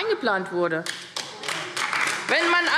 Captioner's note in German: Beifall AfD